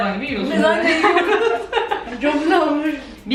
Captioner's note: laughing